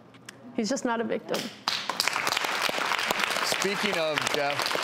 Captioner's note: applause